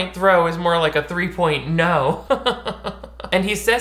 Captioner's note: laughs